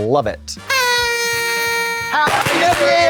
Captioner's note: party horn blows